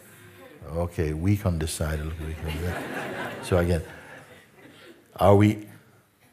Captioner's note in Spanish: risas